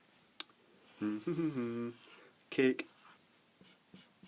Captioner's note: hums